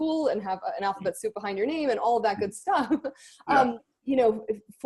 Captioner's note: laughs